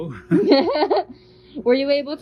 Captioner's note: both laughing